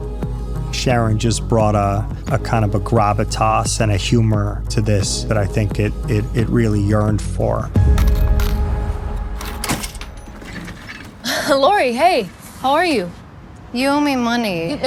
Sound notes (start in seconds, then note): 9.0 cash register slams shut; 11.2 chuckles